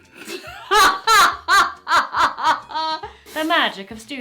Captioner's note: laughs